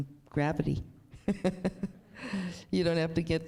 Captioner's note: chuckles